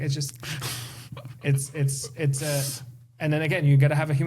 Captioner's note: laughter